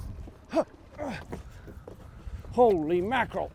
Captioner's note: grunting